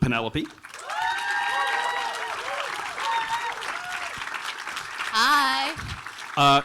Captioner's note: audience applauding and cheering